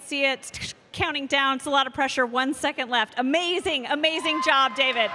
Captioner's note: cheers and applause